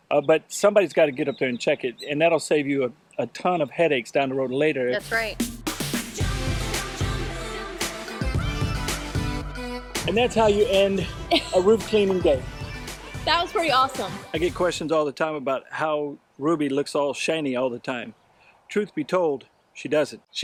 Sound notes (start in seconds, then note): 6.1 upbeat music; 10.4 chuckles